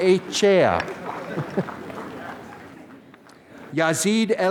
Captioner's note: applause